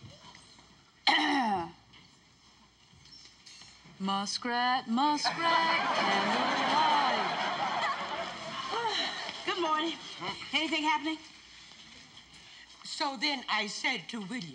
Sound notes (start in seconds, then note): 1.0 clears throat; 9.4 sighs